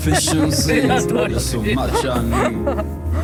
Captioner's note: laughter